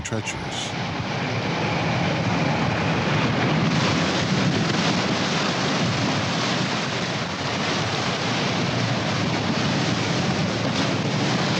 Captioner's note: waves Crashing